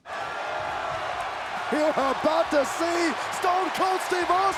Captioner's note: crowd cheering